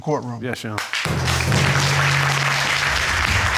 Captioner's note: audience applauding